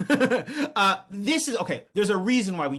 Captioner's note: laughing